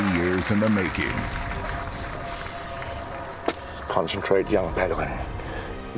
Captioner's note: cheers and applause